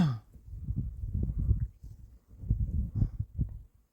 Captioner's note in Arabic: تنحنُح